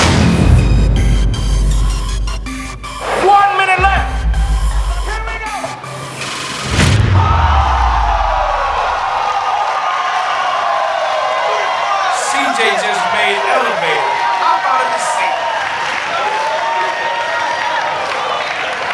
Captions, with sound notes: One minute left. Here we go! (spectators applauding) CJ just made Elevator hop out of his seat.